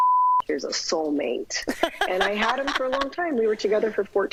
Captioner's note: laughter